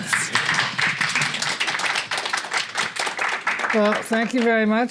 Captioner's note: applause